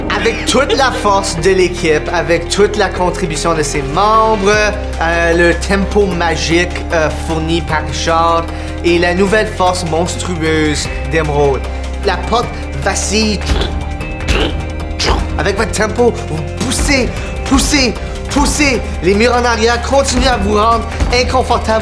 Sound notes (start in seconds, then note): 13.5 three thuds